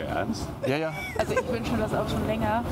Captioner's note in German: Frau lacht